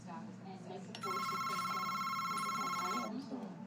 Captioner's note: phone rings